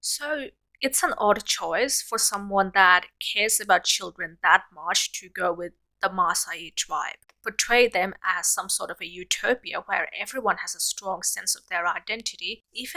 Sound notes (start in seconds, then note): none